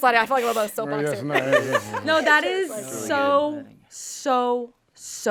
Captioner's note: laughs